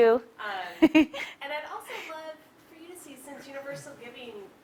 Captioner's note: laugh